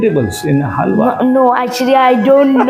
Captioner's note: laugh